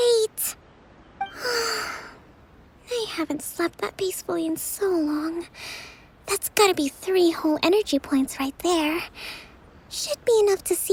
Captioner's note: sigh